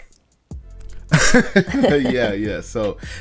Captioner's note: both laughing